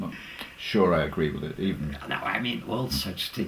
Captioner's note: laugh